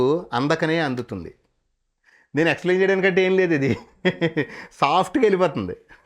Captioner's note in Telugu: నవ్వు